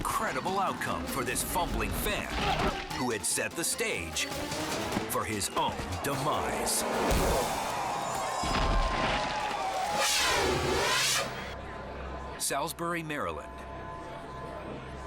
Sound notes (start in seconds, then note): 2.3 body whomps; 8.4 body thuds; 10.1 dramatic music